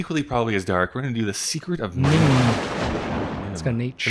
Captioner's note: thunder